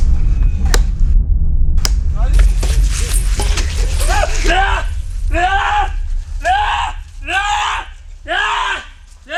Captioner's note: Rajiga screaming